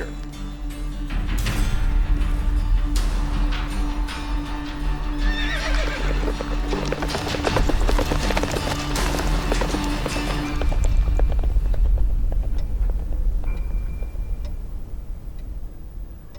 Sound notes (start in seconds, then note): 0.1 dramatic music playing; 5.2 horse neighs; 5.7 horses trotting away